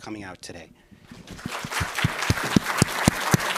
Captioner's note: applause and cheering